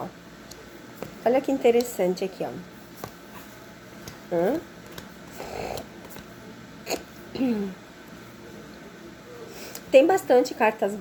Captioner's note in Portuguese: limpando a garganta